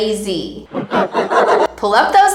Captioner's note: sinister laughs